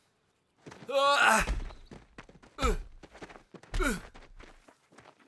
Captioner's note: mathias shouting